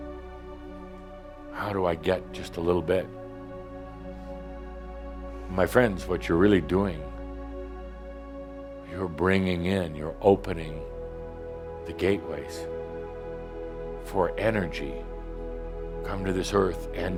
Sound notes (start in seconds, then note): none